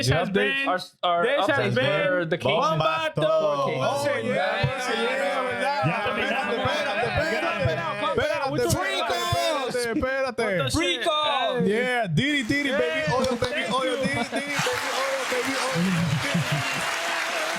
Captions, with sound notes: This has been our update. This has been the King's Battle. (Cheering) Yeah, we got the battle, the battle, the battle. With the free calls. With the free calls. Yeah, Diddy Diddy baby. (Cheering)